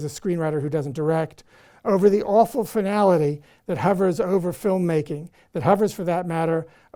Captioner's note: none